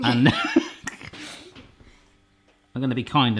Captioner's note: laughs